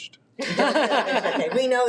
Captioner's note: group laughing